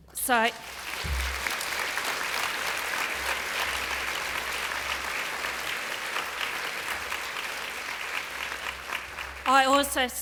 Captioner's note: applause